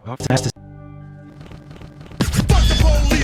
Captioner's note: shuffling stuttering